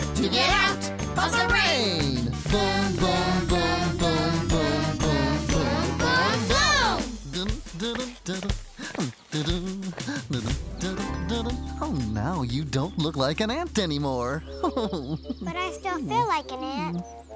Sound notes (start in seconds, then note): 8.4 Barney Hums